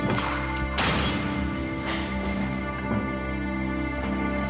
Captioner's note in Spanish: sonido al estrellar el vaso